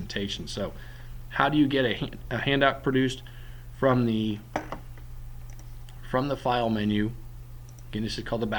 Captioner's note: click